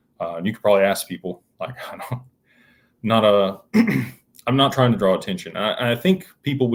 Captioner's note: clears throat